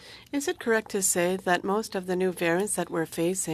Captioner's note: speaking French